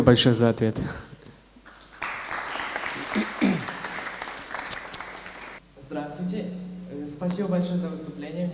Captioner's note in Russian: аплодисменты